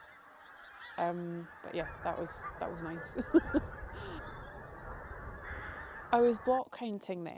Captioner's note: laughs